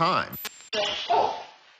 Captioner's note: dog barks